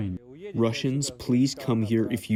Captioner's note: through translator